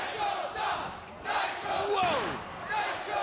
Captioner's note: crowd chants